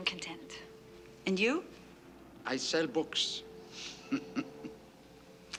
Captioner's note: chuckles